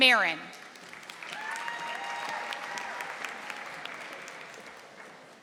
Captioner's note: audience applauding